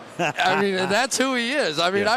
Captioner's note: laughs